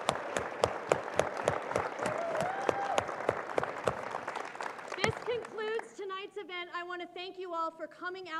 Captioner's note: applause